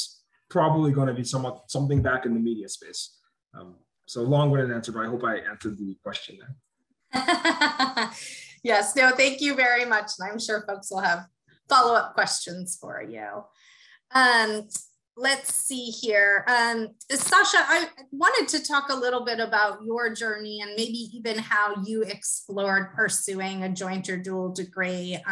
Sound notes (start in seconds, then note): 7.2 laugh